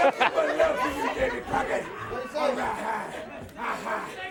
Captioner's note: crowd cheering